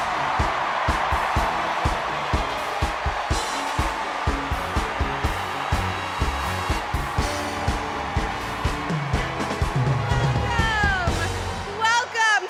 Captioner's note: cheers and applause